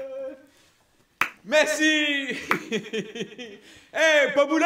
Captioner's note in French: Continue de rire